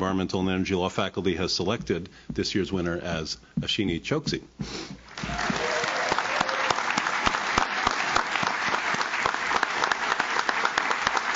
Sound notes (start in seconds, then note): 5.0 audience claps; 5.1 audience cheers